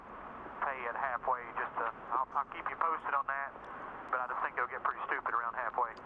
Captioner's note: radio